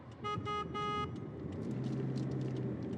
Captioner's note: car honks